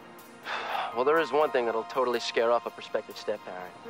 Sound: sighs

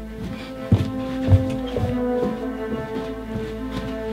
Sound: footsteps; suspenseful music

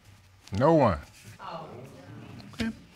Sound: audience exclaiming

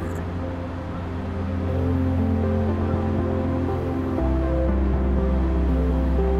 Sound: machine lightly whirring

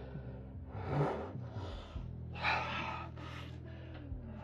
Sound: narrator sighing

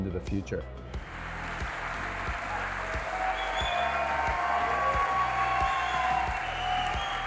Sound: audience applause and cheering

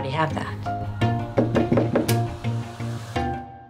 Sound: knocking

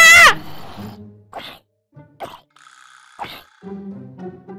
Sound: screaming; zombie growling

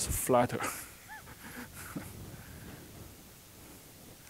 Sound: chuckling

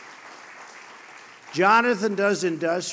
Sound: applause

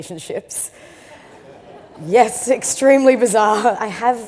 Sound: audience laughs

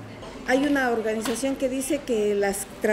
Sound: speaking in Spanish

